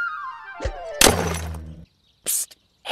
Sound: cracks

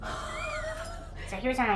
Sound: both laugh

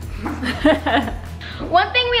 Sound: laughs

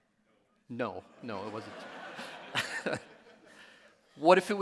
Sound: audience laughing

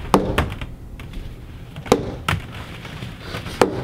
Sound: hitting wall

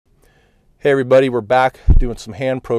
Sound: voiceover

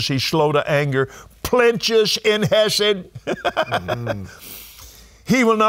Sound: chuckling

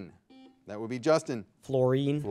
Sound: buzzer beeping

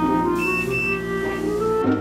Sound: beeping

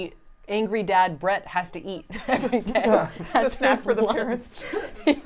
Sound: laughs

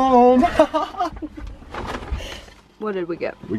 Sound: laughing with sass

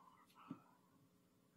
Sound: whispering

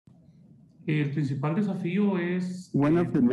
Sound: speaking in foreign language

